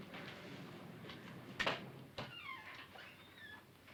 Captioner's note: door creaking